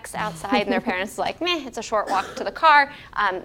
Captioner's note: laugh